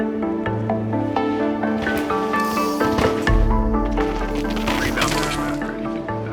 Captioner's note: bike hitting the ground